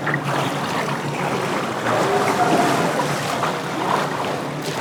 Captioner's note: water splashing